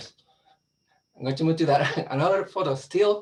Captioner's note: laughs